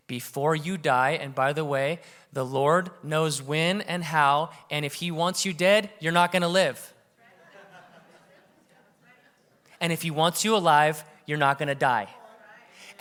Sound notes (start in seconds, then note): 7.2 audience chattering; 7.2 audience laughing